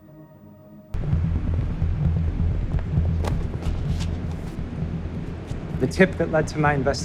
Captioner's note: dramatic music; footsteps tapping